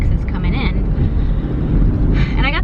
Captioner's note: sighs